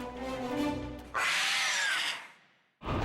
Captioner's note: screeches